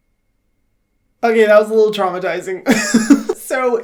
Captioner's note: laughs